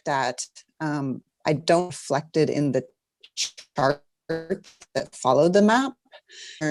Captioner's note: mic cuts out